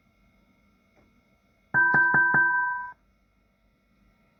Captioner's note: bell rings